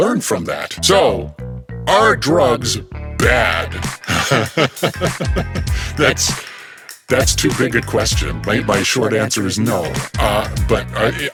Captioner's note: laughter